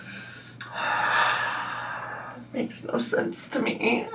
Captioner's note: sighs